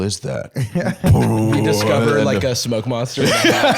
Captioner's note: BWOOoom